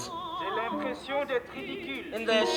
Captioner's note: translator speaks in foreign language